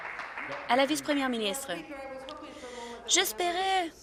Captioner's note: applause